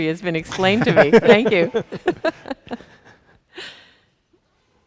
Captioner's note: chuckles